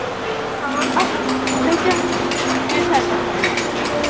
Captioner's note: in English